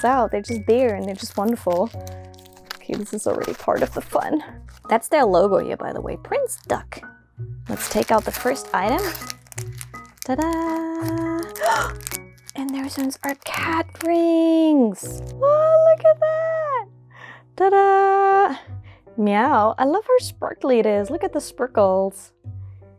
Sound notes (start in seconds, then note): 11.4 gasp